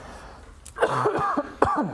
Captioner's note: cough cough